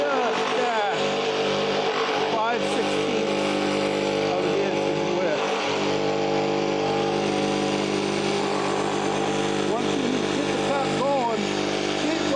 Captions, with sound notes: just at five 16ths up against its width. (saw whirring) Once you get the cut going,